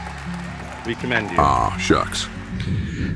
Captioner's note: applause in background